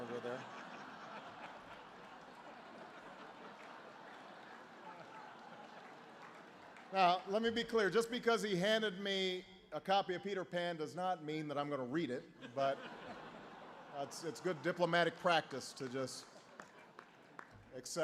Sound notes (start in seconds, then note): 7.7 laughter; 12.3 laughter